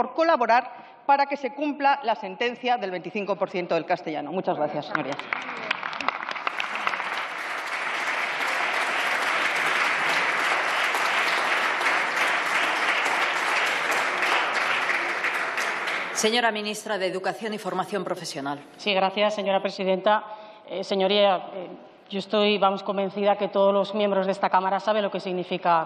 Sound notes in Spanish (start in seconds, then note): 8.2 Aplausos